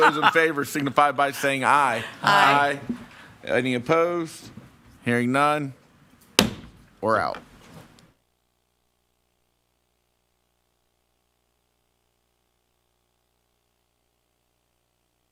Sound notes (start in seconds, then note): 0.0 board members chuckling; 6.3 maller thudding